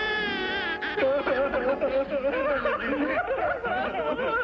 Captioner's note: baby crying; all crying